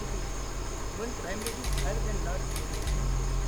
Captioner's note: camera clicks